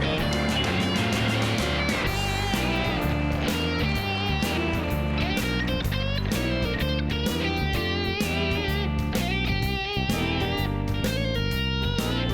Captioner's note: applause